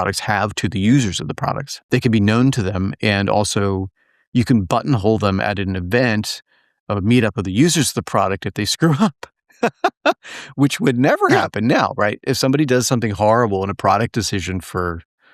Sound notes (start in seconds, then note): 9.6 laugh